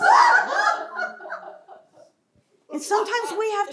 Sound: laughter

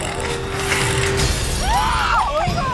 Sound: students yell

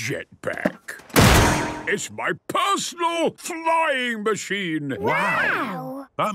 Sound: clangs

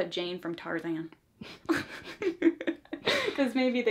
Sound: both laugh

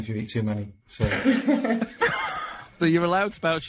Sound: members laughing

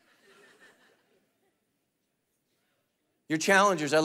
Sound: congregation laughing

